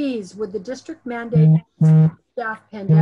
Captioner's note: telephone buzzing